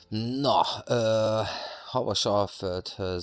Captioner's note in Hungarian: sóhajtás